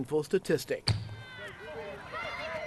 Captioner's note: kids shouting